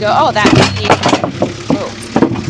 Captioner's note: metal clanking